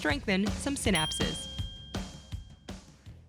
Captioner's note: bell dings